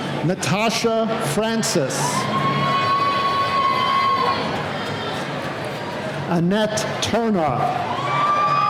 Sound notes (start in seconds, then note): 1.9 cheering